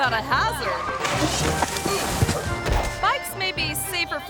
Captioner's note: bike crashing